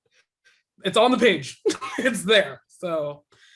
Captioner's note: laughing